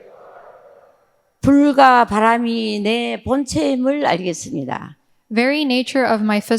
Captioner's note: speaking in foreign language